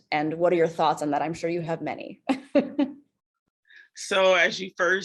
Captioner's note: chuckles